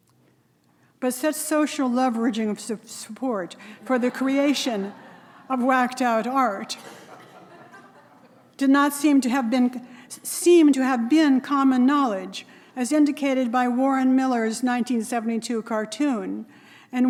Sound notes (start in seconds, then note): 6.5 audience laughing